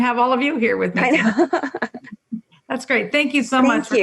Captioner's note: chuckles